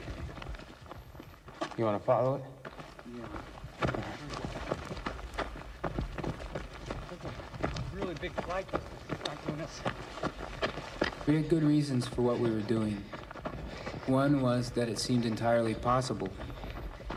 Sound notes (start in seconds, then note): 3.4 running sound